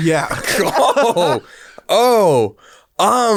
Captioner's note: both laugh